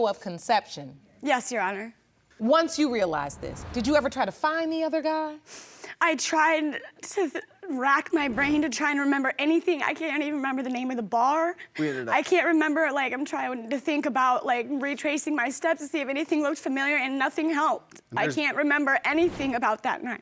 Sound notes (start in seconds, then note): none